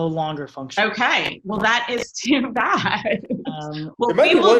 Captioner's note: chuckles